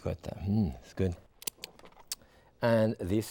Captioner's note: lips smacking